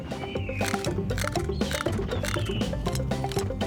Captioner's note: crunching